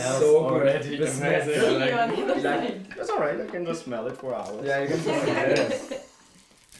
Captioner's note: background table chat